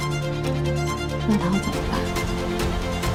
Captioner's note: dolphin sound